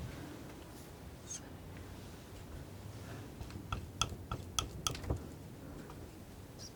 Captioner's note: tapping